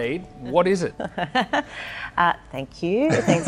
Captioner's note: laughs